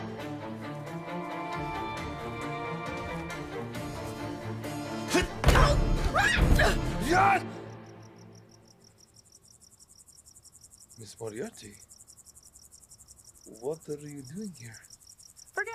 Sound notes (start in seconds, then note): 5.4 Ava slams; 6.2 Ava yells; 7.0 Radovan yells; 8.7 crickets chirping